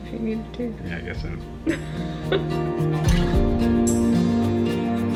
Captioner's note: laughs; gentle music